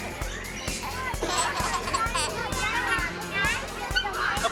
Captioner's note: baby laughing